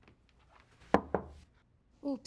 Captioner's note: knock on door